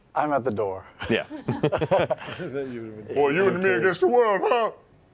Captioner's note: voice breaking